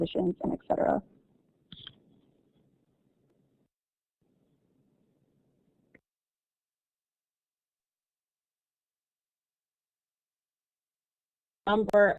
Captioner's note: silence